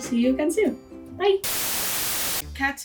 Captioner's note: static